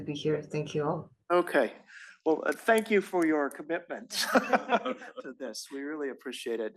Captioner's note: laugh